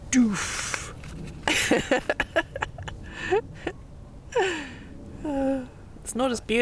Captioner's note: laughing at the mess I'm making